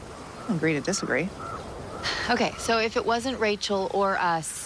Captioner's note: sighs